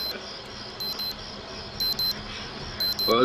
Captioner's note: alarm sounds